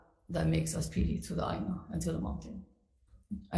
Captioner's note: speaks foreign language